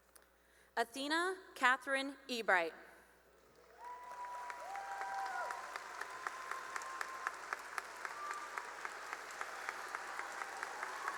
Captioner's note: cheering and applause